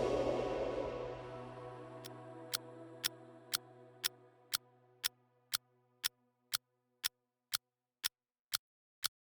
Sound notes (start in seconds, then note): 2.6 clock ticking